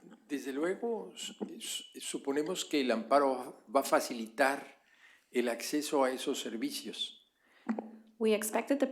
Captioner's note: speaking spanish